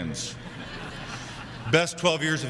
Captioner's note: crowd laughing